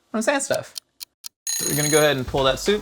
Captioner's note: bell rings